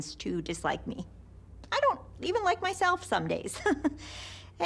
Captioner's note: chuckles